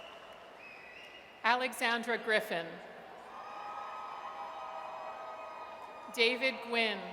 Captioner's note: audience cheers